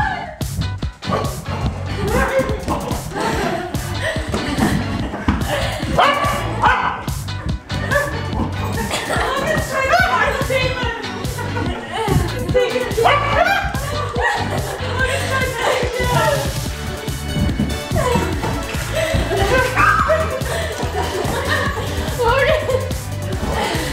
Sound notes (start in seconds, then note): 0.2 upbeat music; 5.9 dog barking; 19.3 laughing